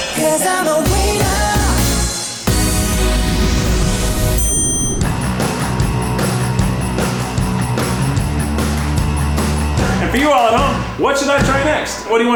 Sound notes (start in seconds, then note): 4.4 ding